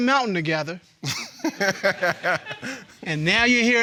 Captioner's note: laughing